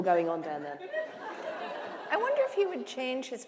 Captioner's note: laughter